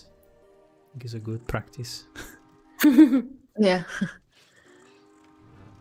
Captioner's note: laughs